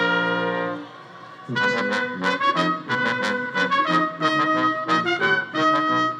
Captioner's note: attendees speaking faintly and cheering